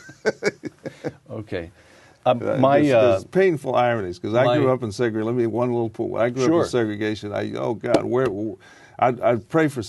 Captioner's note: laughter